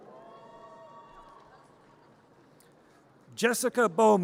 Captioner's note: audience cheers